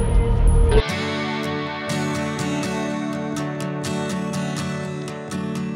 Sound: the audio was so loud it distorted

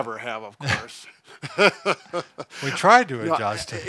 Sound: laughing

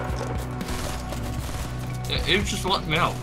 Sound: guns firing

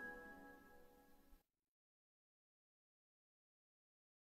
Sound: silence

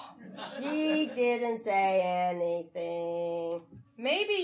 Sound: audience laughing

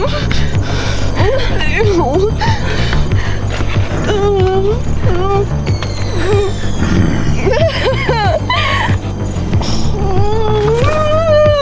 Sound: both Crying

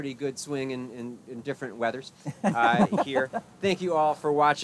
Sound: laughing

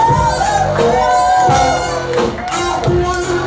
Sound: bluesy guitar solo plays over reggae music; cheering

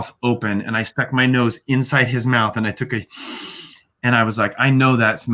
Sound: sniffs

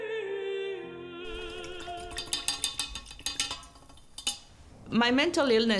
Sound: tapping

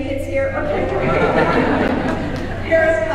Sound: audience laughing

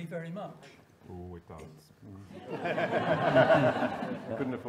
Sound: audience laughing

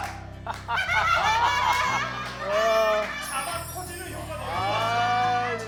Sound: applause

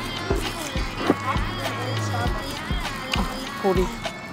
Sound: chew chew

